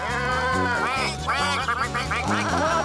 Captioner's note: bleating and Quacking